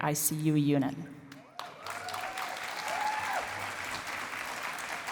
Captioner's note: cheering and applause